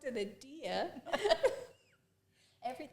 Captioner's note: both laugh